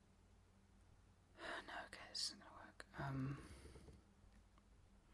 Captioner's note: muttering to herself